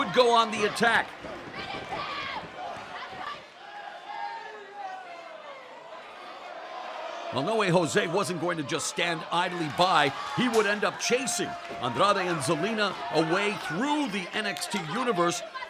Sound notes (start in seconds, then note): 5.2 cheers and applause